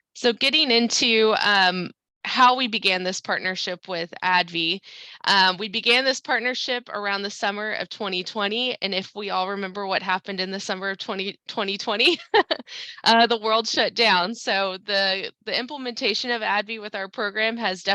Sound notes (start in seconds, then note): 12.0 chuckles